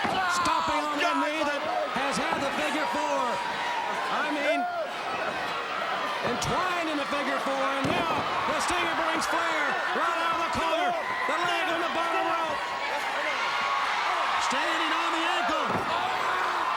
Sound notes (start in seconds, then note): 13.0 crowd cheering